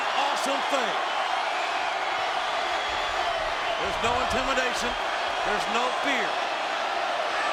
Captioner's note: applause